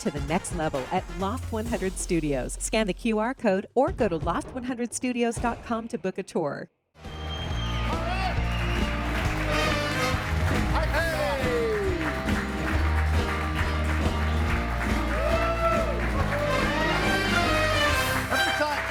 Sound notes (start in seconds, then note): 9.2 audience cheers; 11.9 upbeat music; 15.3 audience cheers